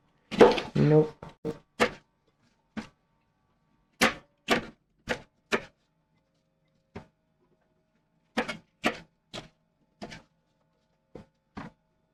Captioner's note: knife cutting